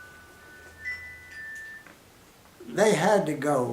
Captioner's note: cell phone rings and is silenced